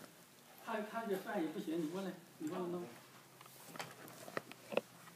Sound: speaking foreign language

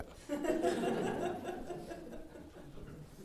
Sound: laughter

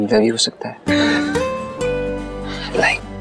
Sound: giggling

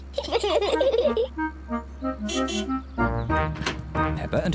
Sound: both giggle; honks horn

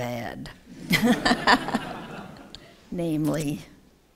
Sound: laughter

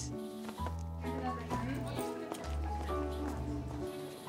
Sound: indistinct chatter

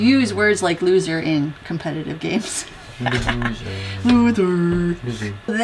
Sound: laugh

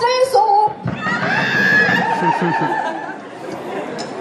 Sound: laughter

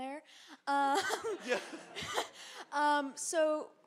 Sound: audience laughs

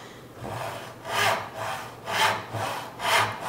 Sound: rasping

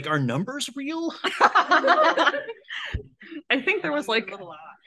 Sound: laughs

